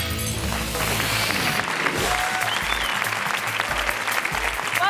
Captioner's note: audience cheering